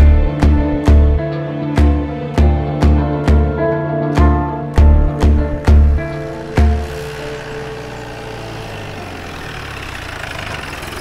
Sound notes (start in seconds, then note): 5.2 police jeep approaches